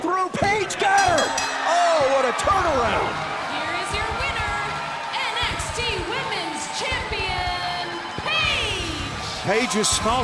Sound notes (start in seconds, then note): 0.8 bell ringing